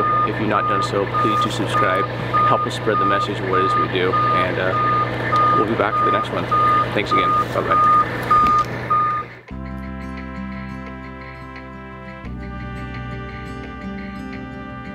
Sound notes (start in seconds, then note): 8.9 beep sound; 9.5 upbeat music